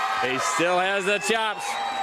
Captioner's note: crowd cheering